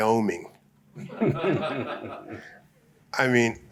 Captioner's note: laughter